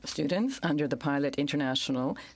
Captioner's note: speaking French